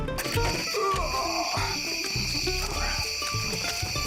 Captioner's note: groaning; insects chirping